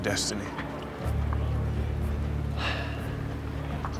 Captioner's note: sighs